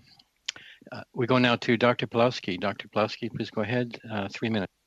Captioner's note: speaking French